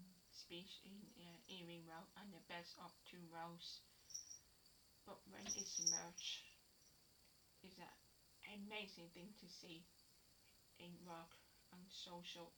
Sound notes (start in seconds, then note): 4.1 cat bell in background; 5.4 cat bell again